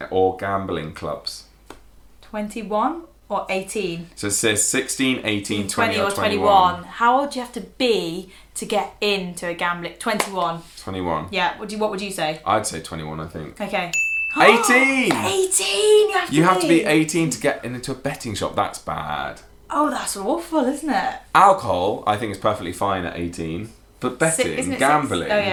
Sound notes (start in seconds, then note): 13.9 ding